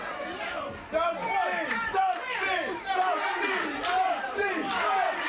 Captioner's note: crowd chants "Dusty"